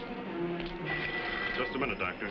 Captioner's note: phone ringing